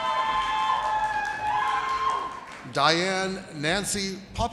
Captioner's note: audience cheers and applauds